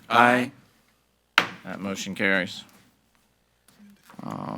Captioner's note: gavel bangs